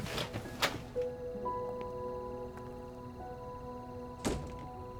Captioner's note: insects chirping